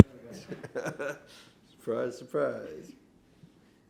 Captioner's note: laughs